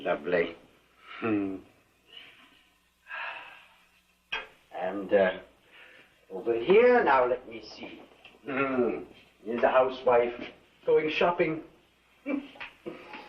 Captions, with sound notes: Isn’t she lovely? Hmmm. (sighs), and... er … over here, now let me see. Here’s a housewife, going shopping (chuckles).